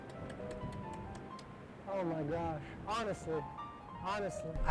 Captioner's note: clapping